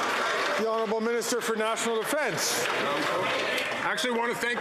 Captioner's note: some Applause